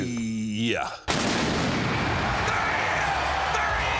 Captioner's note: loud explosion